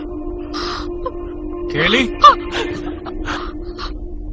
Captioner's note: gasps